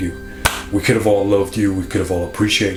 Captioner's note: hand smacks